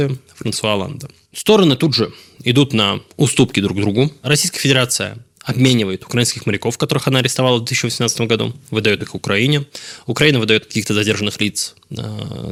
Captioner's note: Ukrainian